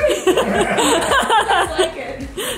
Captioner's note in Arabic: يضحك الجميع